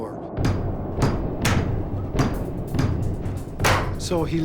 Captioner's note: man banging on door